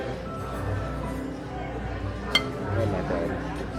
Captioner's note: ambient restaurant noise